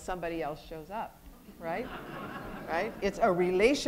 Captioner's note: audience laughter